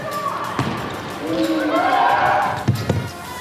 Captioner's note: boos and cheers